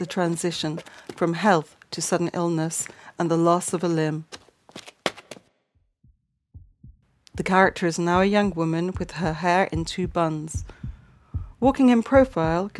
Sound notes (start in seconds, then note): 4.3 footsteps stop, heartbeat fades in